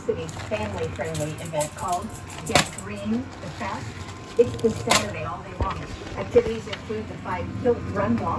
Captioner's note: "21Alive News at 6" plays in background